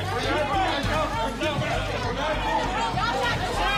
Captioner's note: clamoring